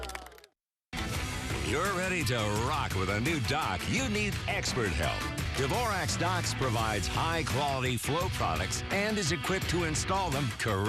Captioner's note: clapping